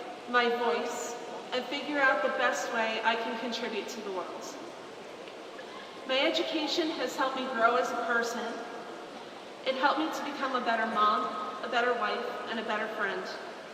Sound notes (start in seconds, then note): none